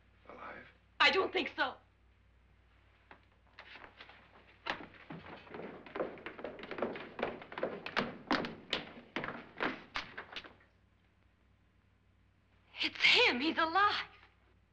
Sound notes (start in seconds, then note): 5.9 footsteps down stairs